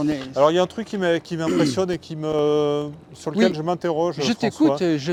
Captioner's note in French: raclement de gorge